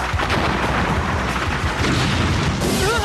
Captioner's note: groaning